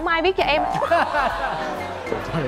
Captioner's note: laughing